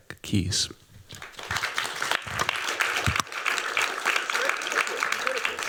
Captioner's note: applause